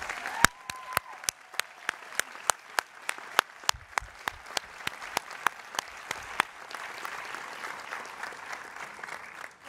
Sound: applause

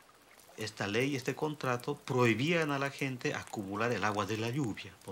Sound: speaking foreign language

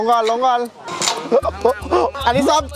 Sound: gasping

